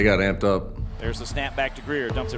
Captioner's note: voiceover